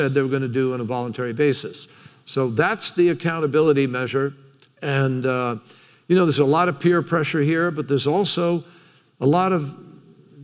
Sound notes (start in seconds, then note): none